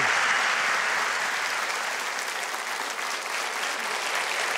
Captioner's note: audience applause